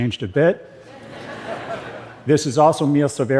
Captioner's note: laughter